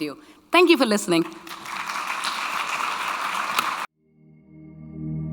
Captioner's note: audience clapping; light bright music